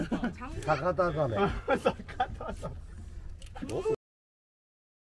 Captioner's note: captain's sigh